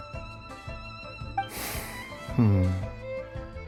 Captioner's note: sigh